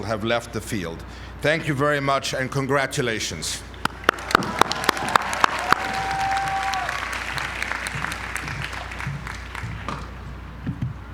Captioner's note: applause